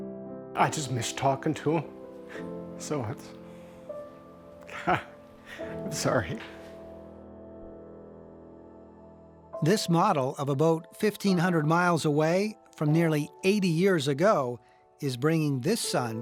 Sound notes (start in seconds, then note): 4.6 laughs